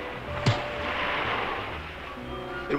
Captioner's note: punch lands